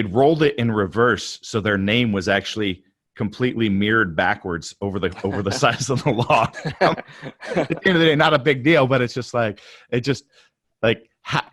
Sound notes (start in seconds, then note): 6.6 both laugh